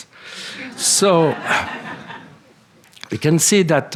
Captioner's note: laughter